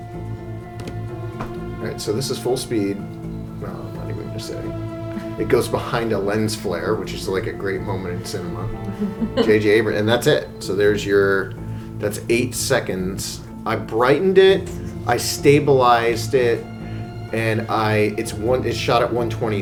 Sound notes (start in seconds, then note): 8.2 chuckling